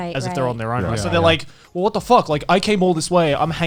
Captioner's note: group agreeing